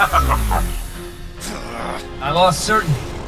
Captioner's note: mechanical laughter; growl